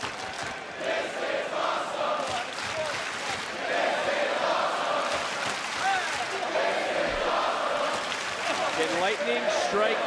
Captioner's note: crowd chants "this is awesome"